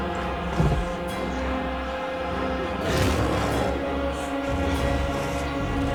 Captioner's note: soft tense orchestral music; growling softly